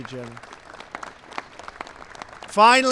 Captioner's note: applause